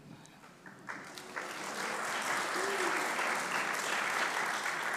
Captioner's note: congregation applauding